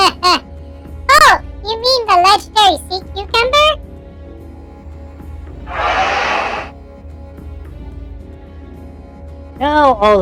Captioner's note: laughs